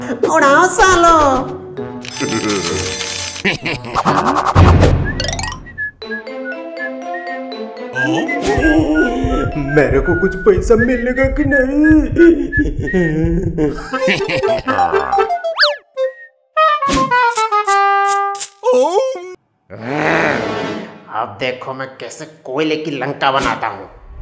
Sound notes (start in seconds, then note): 5.0 whitsling; 8.4 heartbeat sound; 14.1 weird chuckle; 18.7 sad noises; 19.7 angry grunt